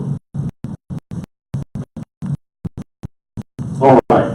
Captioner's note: audio cutting out